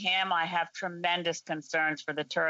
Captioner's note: speaking French